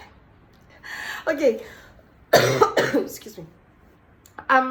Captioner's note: cough